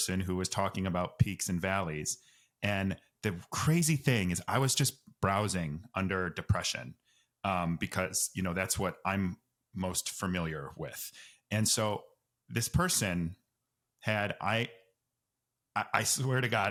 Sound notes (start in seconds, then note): none